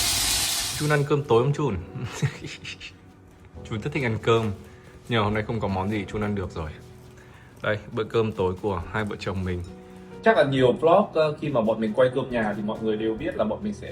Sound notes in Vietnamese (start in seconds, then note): 1.9 tiếng cười